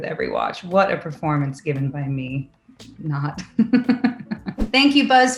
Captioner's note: laughs